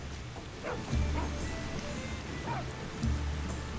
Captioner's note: dogs barking